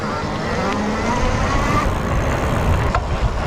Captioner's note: motor running